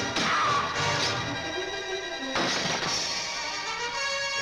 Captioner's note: man screams